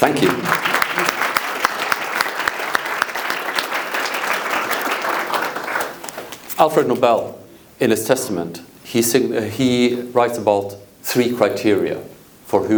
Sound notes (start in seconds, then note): 0.0 audience applauds